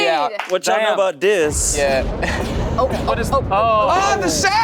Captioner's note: thunder claps